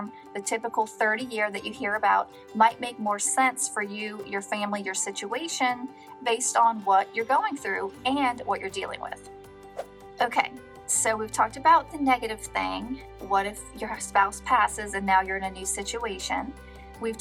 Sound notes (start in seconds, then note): 9.7 air whooshing